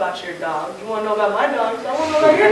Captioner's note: laughter